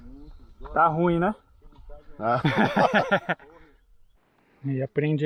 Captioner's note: laughs